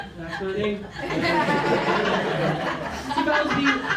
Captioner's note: laughter